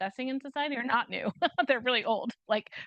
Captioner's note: chuckles